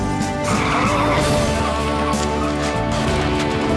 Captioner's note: tyres screech